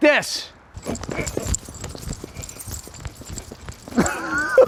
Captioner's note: rattling; rustling; laughing